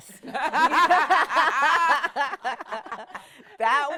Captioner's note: laughing